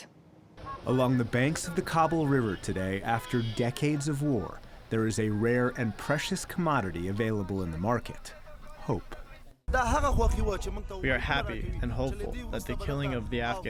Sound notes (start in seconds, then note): 10.2 through translator